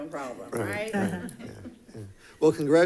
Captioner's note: people chuckling